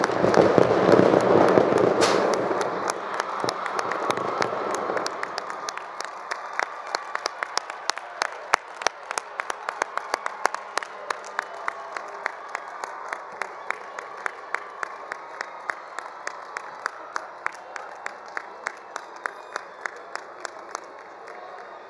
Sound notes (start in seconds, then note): 0.0 firecrackers booms; 0.3 all cheering; 7.4 attendees applauding; 7.4 attendees cheering